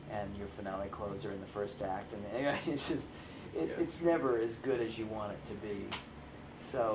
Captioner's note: laughs